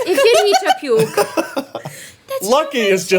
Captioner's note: everyone laughing